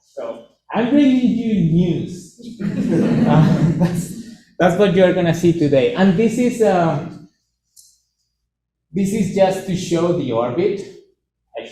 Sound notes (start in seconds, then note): 2.4 laughter